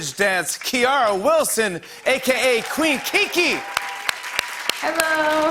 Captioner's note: cheers and applause